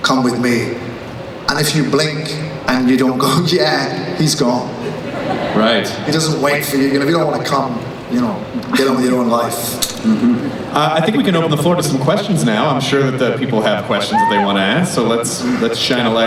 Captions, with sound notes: Come with me. If you blink and you don't go, he's gone. - [Voiceover] Right. - He doesn't wait for you, if you don't wanna come, get on with your own life. - I think we can open the floor to some questions now, I'm sure that the people have questions they wanna ask, so let's shine a light